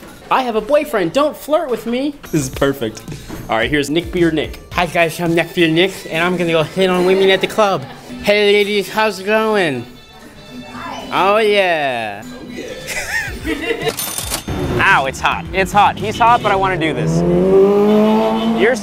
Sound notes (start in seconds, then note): 12.2 laughs; 13.7 buzzer chiming; 17.3 car revving